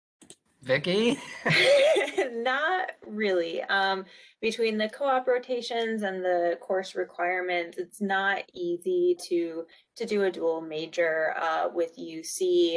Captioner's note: laughs